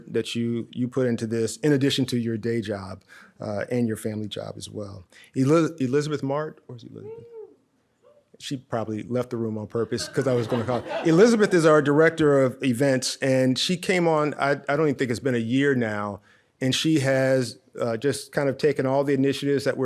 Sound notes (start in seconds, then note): 9.8 audience laughs